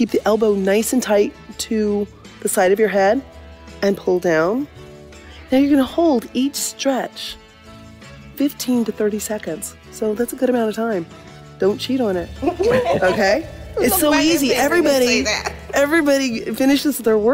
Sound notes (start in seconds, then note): 12.5 laughter